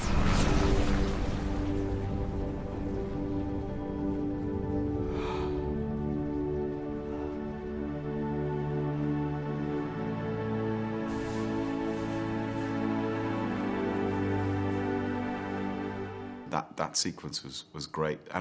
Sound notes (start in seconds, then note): 0.1 glorious music; 5.0 Capa exhales; 5.2 glorious music; 11.4 glorious music